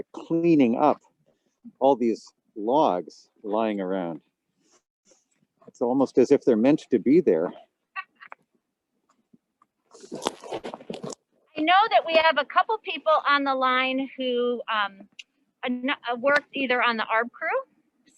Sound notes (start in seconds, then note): 8.0 laughing